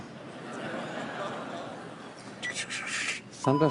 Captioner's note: audience laughs